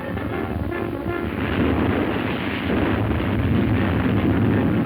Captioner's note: boulder rumbling